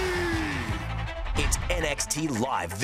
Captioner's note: cheers & applause